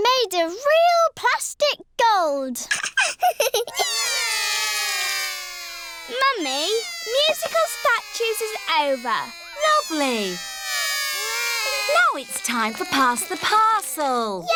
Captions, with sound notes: It's made of real plastic gold. (LAUGHS) (ALL CRY) Mummy, musical statues is over. Lovely. Now it's time for pass the parcel.